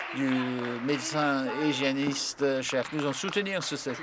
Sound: applause

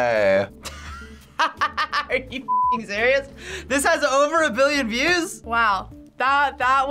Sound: laughs

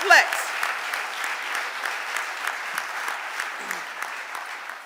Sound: audience applauding

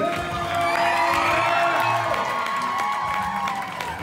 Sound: audience cheers

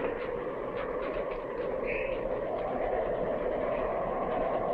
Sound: wind howling

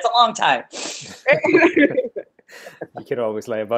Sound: laughing

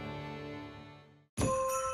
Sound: bells jingling

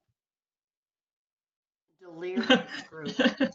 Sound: chuckling

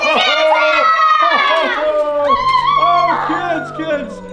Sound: kids cheering

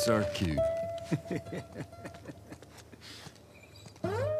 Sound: chuckles

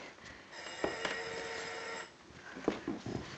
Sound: telephone ringing

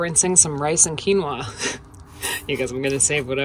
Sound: laughing

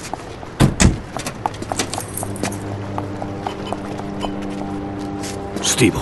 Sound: rocking of waves; car doors open and close; footsteps approach; ship's horn blows

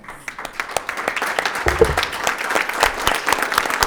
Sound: group clapping

